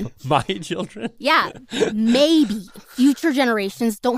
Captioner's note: laughs